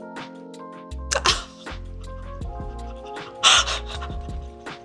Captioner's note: laughs